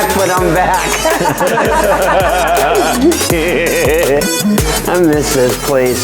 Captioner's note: laughing